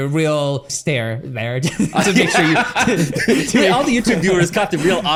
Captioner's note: laughs